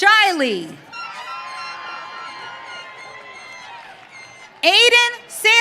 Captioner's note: audience cheering